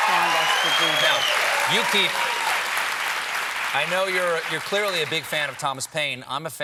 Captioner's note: cheers and applause